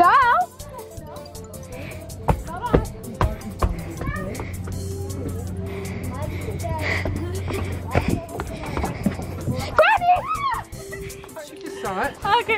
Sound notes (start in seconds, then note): 1.6 soft upbeat music; 4.4 fast panting; 9.8 screaming